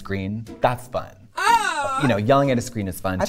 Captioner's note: person yelling